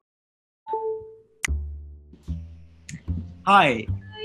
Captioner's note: cell phone beeps